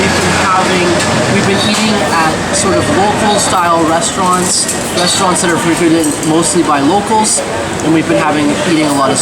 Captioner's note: eating